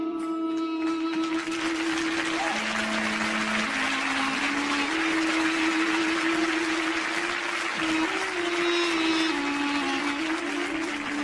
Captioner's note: applause